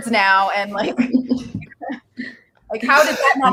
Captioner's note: laughing